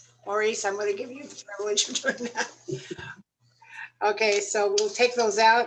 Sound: laughter

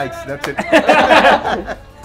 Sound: everyone laughing

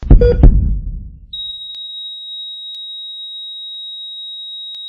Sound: high pitched tone

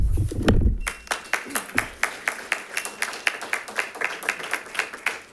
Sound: congregation claps

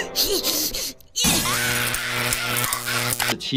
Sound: electricity buzzing; glass shattering

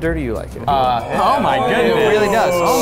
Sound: men oohing

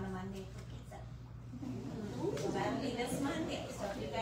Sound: audience "ooooohs"

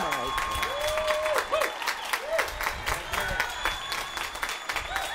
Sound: applause

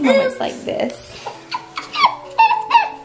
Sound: laughs

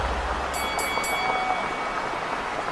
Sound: bell dinging; audience cheering

